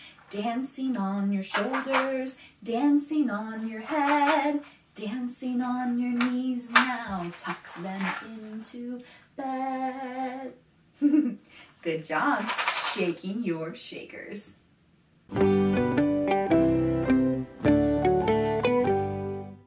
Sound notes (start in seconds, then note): 11.0 laughs; 15.3 transition music